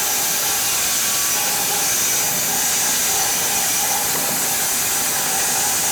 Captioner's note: sawing machine whirring continues